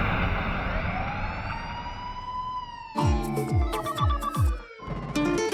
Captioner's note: distant sirens blaring; upbeat music